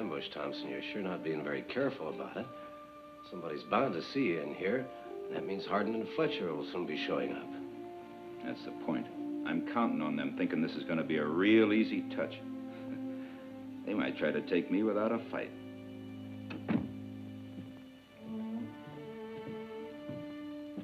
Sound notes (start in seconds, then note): 16.4 door clicks; 18.3 tense music